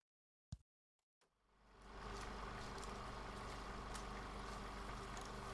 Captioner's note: old movie projector